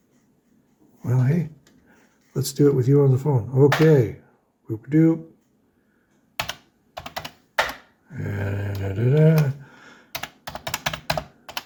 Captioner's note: happy noises, keyboard clacking